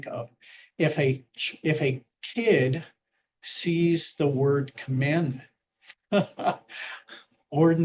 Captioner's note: laughs